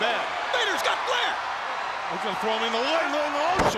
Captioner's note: crowd clamoring